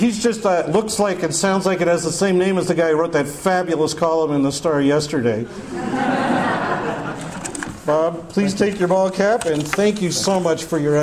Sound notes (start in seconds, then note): 5.5 audience laughter